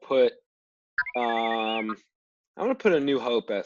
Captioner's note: r2d2 sounds